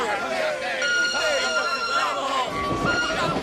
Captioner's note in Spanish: silbato